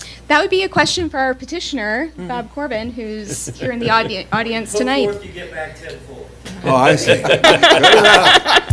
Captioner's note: laughter